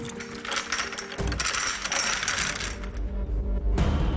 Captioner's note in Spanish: Ruido de cadenas